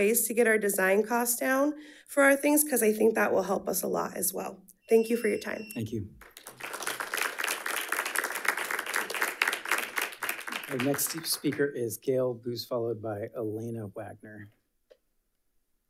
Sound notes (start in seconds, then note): 6.2 audience applauding